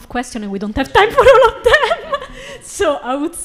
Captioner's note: laughs